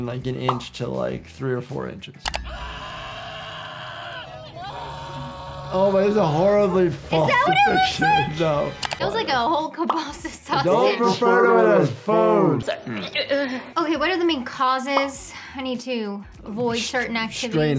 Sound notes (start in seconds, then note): 2.4 people screaming